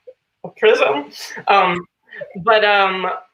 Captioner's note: laughs